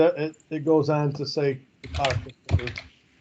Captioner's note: faintly speaking